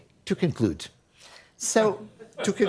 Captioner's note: laughter